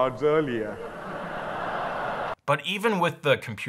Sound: audience laughing

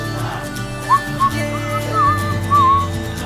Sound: whistles

